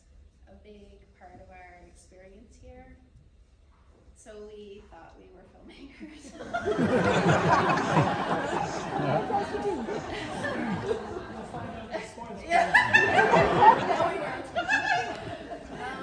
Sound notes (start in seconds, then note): 6.3 audience laughter